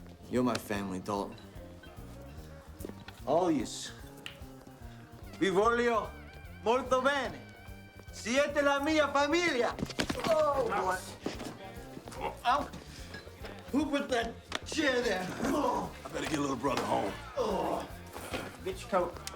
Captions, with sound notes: You're my family, Dalton. All yous. (Castellano speaks Spanish) Oh! Who put that chair there? (grunts) - I better get little brother home. (Castellano groans)